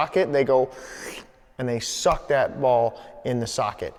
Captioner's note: sucks air